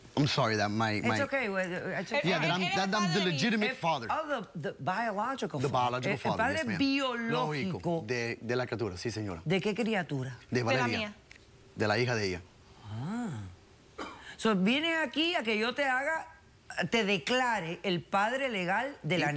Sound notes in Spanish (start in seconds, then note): 5.7 en inglés